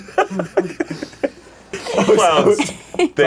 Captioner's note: laughs; all laughing